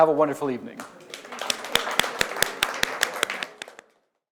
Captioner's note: audience applauding